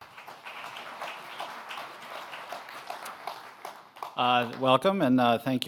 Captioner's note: applause